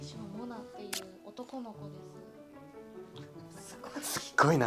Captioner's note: laughs